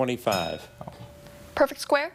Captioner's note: bell dings